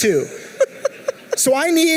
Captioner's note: laughing